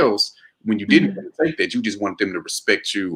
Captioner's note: murmurs